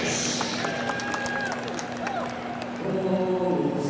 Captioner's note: audience cheering and clapping